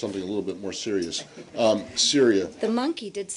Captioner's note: laughter